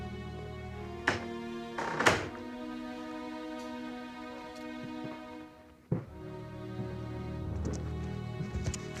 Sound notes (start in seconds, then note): 1.7 door opens and closes